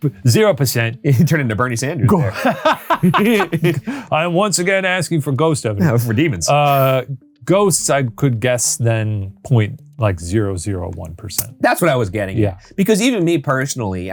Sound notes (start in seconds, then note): 2.1 both laughing; 5.8 chuckles